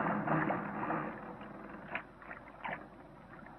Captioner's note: creaking